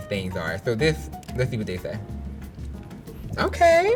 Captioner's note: camera shutters